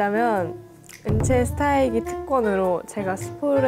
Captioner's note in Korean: 두둥!